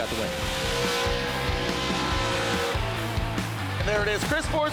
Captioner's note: engine rumbles